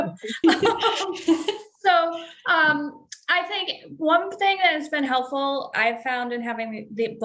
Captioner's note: laughs